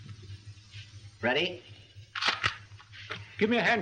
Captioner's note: camera clicks